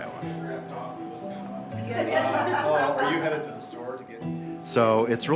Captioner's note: chatter and laughter